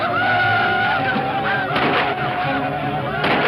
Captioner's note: Indians yell; gunshots